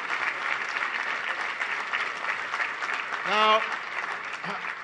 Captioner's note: applause